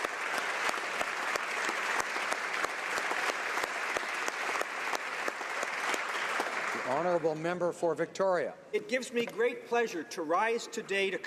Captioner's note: applause